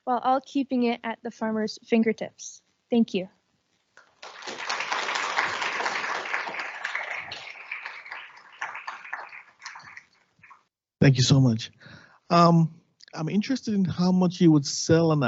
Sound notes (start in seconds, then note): 4.0 audience clapping